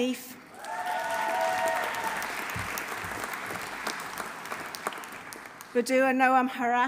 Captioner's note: audience cheering; audience applauding